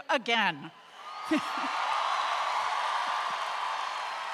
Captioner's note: crowd cheers